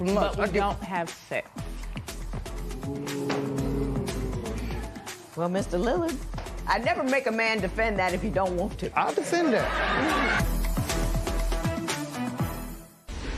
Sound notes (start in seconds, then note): 2.6 spectators "Ooh"; 9.2 laughter